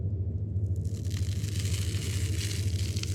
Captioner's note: wallpaper peels off